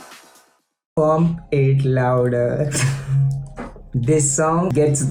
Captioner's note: chuckles